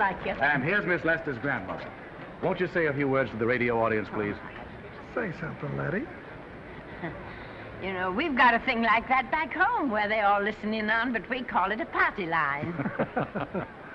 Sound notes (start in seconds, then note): 6.9 Lettie chuckles; 12.6 men laughing